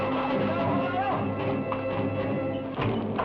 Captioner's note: man shouts; suspenseful music